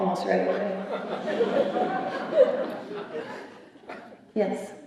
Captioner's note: laughter